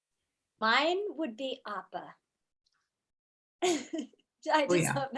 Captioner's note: laughs